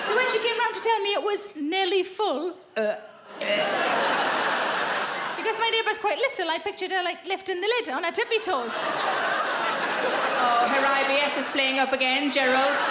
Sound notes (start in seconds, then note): 0.0 audience laughing; 3.0 gagging; 3.3 audience laughing; 8.4 audience laughing